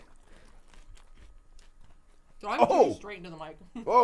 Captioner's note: crunching